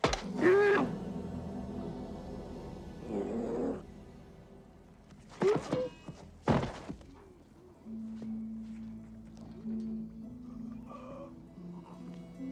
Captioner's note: man shouts